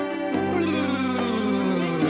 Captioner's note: yawning